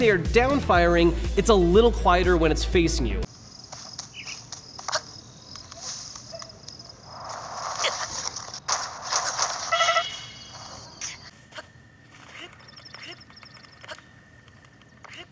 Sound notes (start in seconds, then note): 3.3 grass rustling; 7.0 air whooshing; 12.2 birds chirping